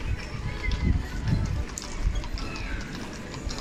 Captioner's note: hoof-clapping